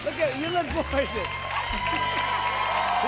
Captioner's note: cheers and applause